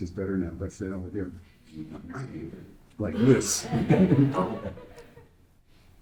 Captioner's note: laughs